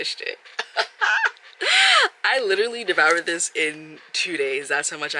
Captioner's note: laughs